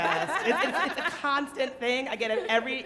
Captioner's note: audience and panelist laughing